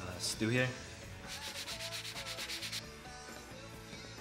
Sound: scratching

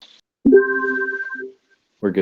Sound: beep

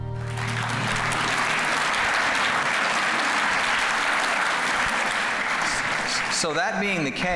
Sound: clapping

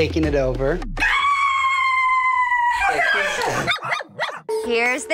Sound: shrieking; barking

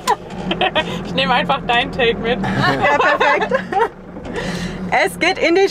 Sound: laughter

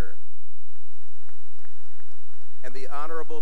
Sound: applause

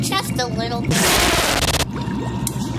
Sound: loud yell, static

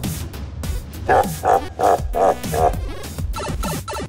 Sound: Bowser laugh

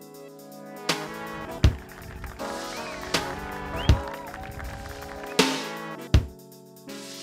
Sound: clapping and wolf-whistling

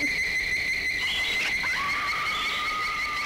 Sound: laughter; screeching; screaming

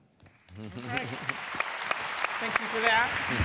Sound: applause

